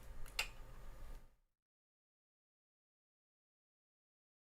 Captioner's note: clicks